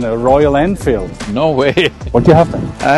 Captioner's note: laughs